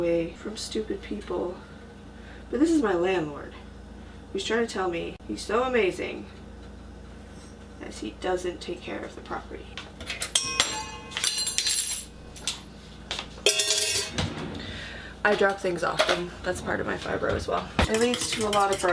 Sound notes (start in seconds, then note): 10.3 tink; 13.4 clank